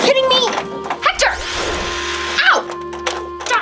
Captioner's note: toy missile whistling